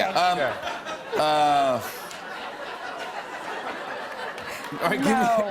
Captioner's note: laughter